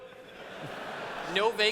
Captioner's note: laughter